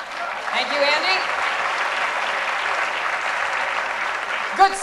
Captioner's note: applause